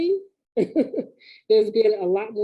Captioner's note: laughing